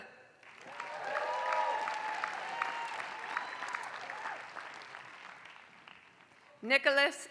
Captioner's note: applause